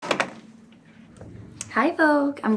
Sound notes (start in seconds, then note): 0.0 door opens